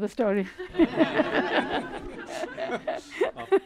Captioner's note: laughter